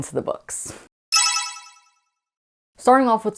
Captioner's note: sparkle Sound Effect